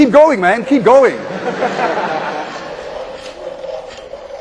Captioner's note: students laugh